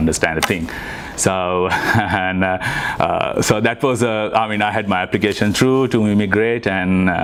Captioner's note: laughs